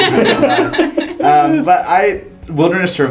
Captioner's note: laugh